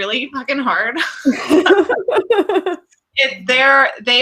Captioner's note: laughs